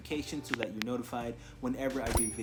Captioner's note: swoosh pop